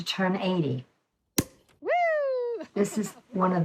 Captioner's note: cork pops